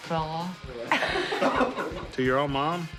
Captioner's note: laughing